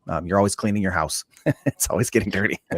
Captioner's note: laughing